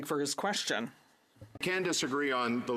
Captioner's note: speaking French